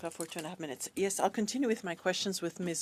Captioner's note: speaking in French